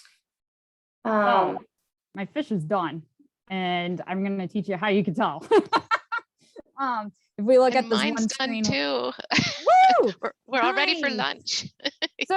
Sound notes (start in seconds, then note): 5.5 laughs loudly; 9.6 cheers